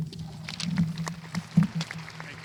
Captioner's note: audience applauding